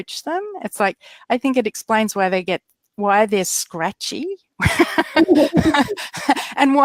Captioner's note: laughs